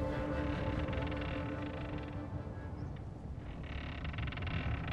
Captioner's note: creaking sign